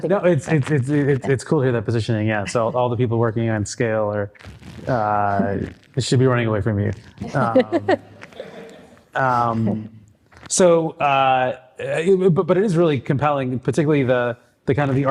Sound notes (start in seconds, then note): 7.2 chuckling; 7.2 group chuckling